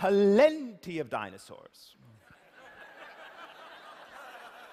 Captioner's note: laughter